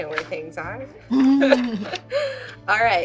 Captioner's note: laughing